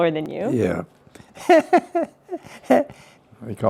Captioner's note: laughs